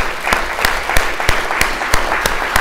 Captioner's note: all applauding